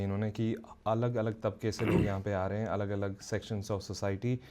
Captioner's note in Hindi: गला साफ़ करने की आवाज़